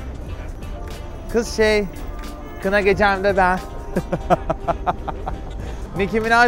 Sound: evil laugh

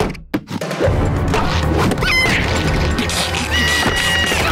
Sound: squeaking; screaming

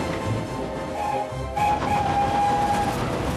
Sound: whistles

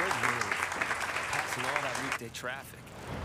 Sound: applause

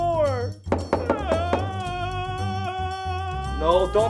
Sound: crying

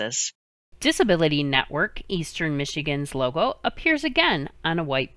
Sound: voiceover

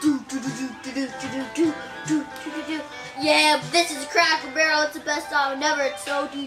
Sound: vocalizing a beat

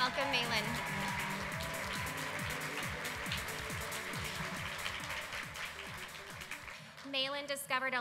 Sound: applause

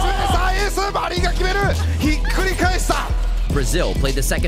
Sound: speaking foreign language

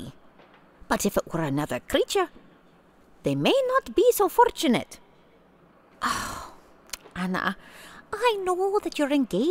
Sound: sigh

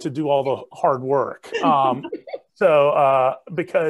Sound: everyone chuckling

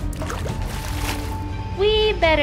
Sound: splashing

